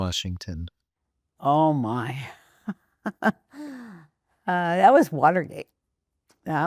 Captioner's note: rires